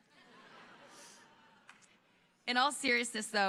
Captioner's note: audience laughing